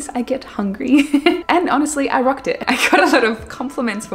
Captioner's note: laughs; laughs